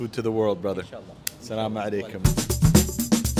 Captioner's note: speaks Arabic; upbeat music